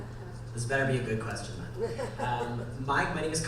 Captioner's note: voiceover; laughing